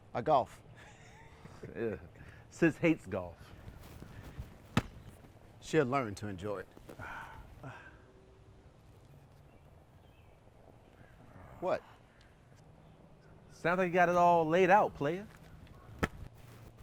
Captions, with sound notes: - I golf. (Errol and Rob laughing) - Yeah, sis hates golf. - She'll learn to enjoy it. (Errol sighs) What? - Sounds like you got it all laid out, player.